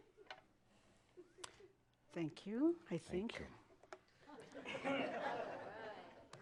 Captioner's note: more chuckles